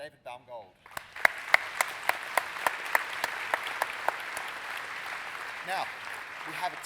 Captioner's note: applause